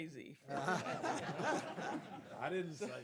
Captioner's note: laughter